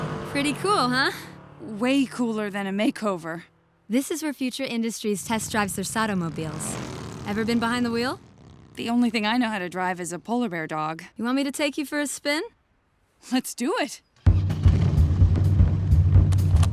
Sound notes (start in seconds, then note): none